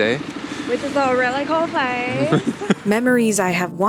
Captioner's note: laughs